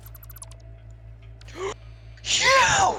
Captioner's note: gasp